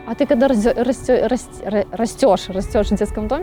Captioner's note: stammering